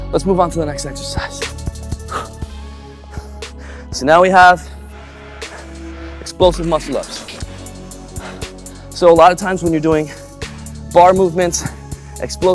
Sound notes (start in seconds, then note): 1.5 breathes deeply